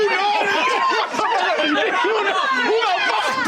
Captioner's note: assorted freaking out